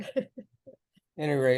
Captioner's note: laughs